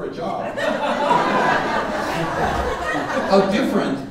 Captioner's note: audience laughing